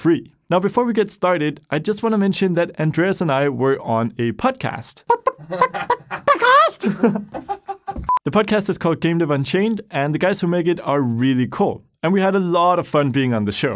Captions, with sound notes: Now before we get started, I just want to mention that Andreas and I were on a PODCAST! *Makes weird chicken noises and flaps wings* PO - PO - PO - PO - PO - PODCAST! *Laughs* The podcast is called Game Dev Unchained and the guys who make it are REALLY cool. And we had a lot of fun being on the show!